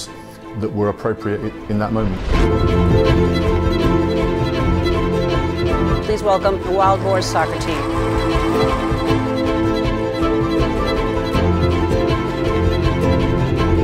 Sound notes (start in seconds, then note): 2.5 spirited upbeat music; 7.2 audience applauding; 10.3 spirited upbeat music